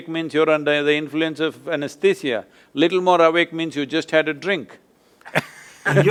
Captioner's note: laughs